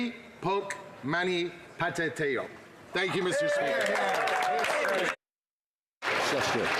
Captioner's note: speaking alternate language